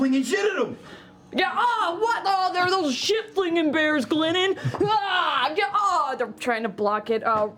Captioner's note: yelling